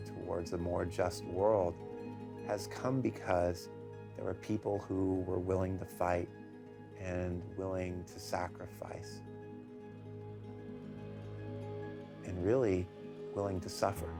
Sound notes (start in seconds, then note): none